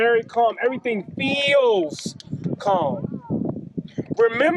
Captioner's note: wind whooshes